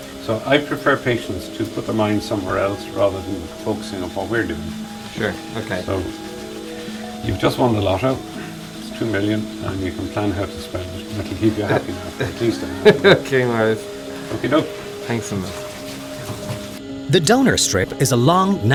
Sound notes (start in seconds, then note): 13.5 laughing